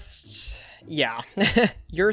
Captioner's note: laughs